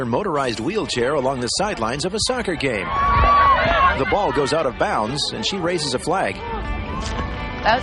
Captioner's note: yelling and cheering